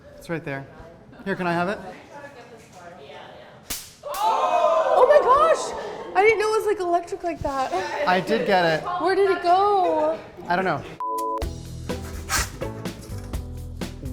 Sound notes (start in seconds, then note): 1.6 background chatter